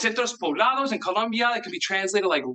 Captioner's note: speaks in Spanish